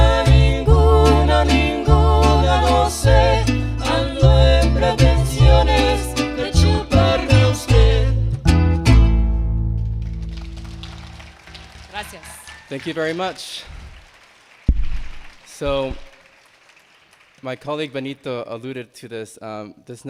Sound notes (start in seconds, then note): 10.0 attendees clapping and cheering; 13.7 attendees clapping